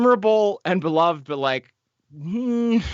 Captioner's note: grunts